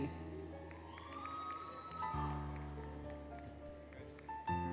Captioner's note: applause, Cheering, Music